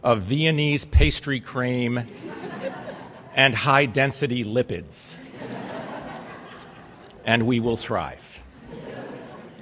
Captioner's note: laughter